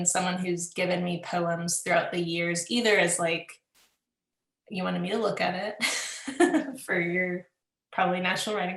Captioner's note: laughs